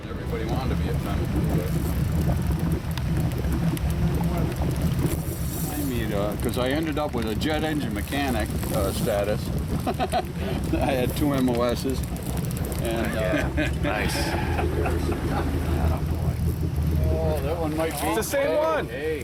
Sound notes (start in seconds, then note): 0.0 gentle music; 9.9 laughs; 12.8 chuckles